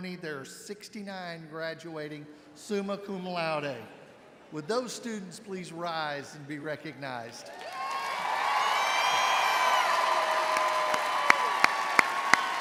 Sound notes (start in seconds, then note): 7.4 audience cheering